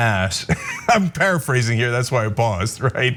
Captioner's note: laugh